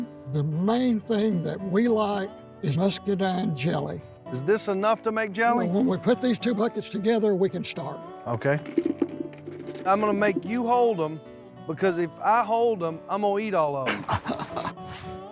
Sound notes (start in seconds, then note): 8.8 soft thuds; 13.8 laughs